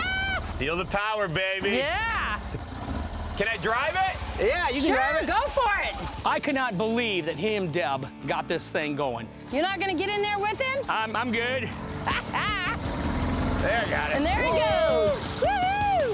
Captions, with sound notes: Feel the power, baby. Can I drive it? Yeah, you can drive it. Go for it. I can not believe that he and Deb got this thing going. You're not going to get in there with him? I'm-- I'm good. [laughs] There, I got it. And there it goes. Woo-hoo!